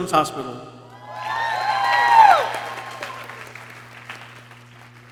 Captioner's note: people cheering